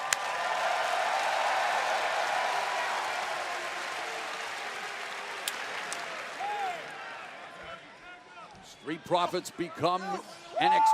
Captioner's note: crowd cheering